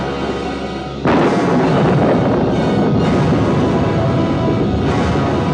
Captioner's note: thunder continues rumbling